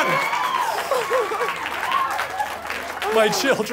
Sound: laughter, applause

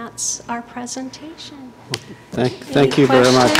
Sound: applause

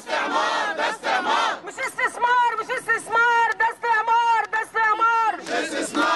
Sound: chants

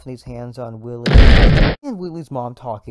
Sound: explosion

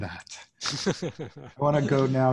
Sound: laughs

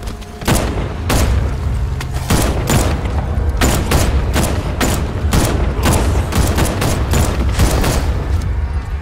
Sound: gunshots

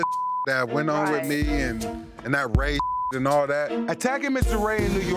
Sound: beep; beep

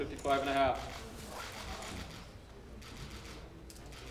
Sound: camera clicks

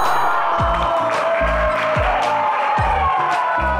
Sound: applause

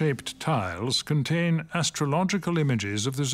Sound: speaks French

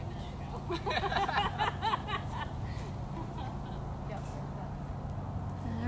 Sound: laughter

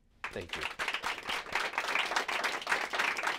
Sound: applause

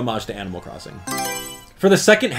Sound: Mario Selection Sound

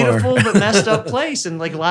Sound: Dr. Huberman laughs

